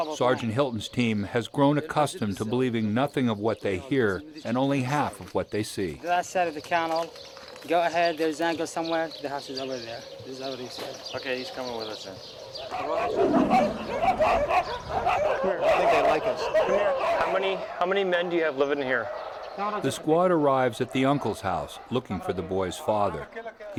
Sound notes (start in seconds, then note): 0.3 voiceover; 12.8 dogs barking; 19.9 voiceover